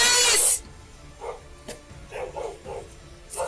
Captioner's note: dog barks